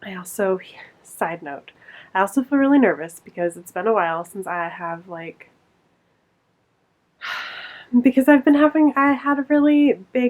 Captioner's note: sighs